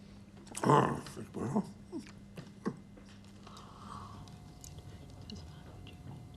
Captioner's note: chuckling